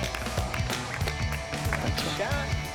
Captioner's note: apapplplauausese